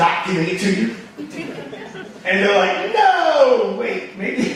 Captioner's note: audience laughing